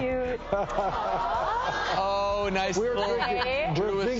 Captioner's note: laughs